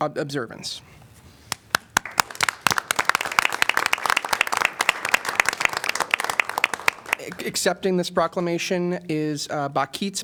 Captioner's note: applause